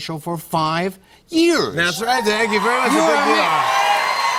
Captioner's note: cheers and applause